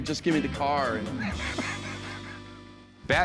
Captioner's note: laughter